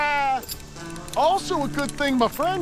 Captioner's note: laughs